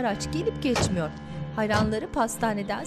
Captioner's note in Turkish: Kapı kapanma sesi